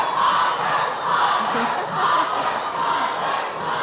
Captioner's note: chanting